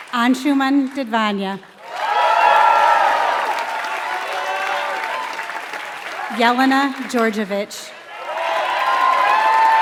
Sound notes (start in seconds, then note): 0.0 applause